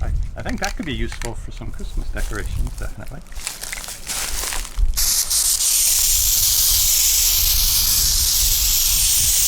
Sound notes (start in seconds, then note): 4.9 spraying